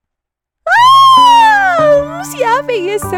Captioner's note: fangirl squee